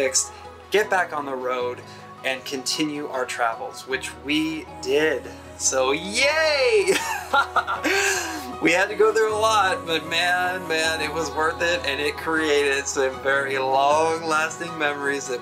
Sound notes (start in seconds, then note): 6.8 laughs